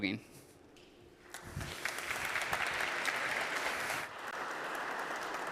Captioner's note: applause